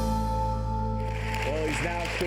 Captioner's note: audience applauds